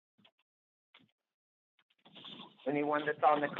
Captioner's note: silence